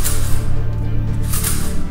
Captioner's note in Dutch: metaal rammelt